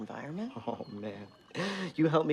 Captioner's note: laughs